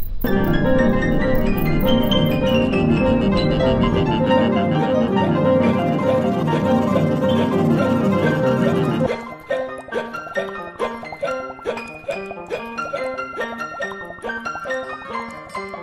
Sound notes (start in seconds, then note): 0.1 jaunty piano music; 9.2 jaunty piano music; 9.2 man yipping loudly